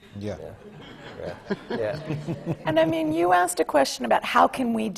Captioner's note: laughs